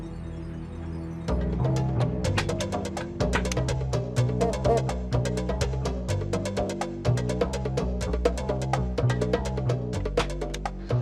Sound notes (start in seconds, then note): 1.6 somber, fast music; 1.6 stapler clicking